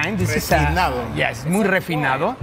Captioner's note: speaking in a foreign language